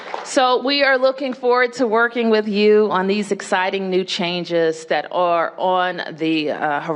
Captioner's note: applause